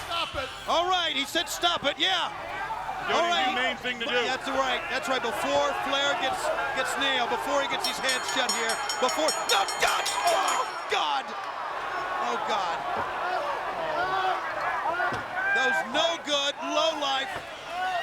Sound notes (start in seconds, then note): 8.4 bell rings